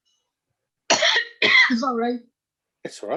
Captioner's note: coughing